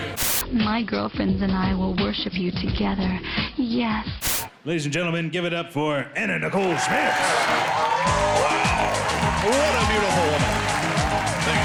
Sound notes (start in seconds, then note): 0.1 static; 4.2 static; 6.5 crowd cheering